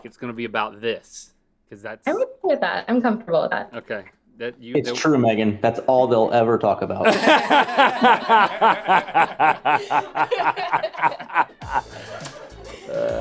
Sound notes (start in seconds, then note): 7.0 laughter